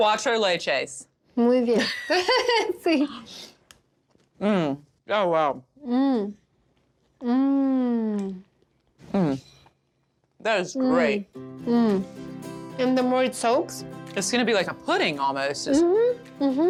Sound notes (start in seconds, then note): 1.8 Pati and Vivian laugh